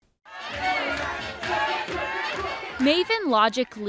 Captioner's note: crowd bantering